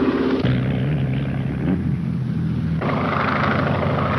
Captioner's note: car engine puttering; engine roaring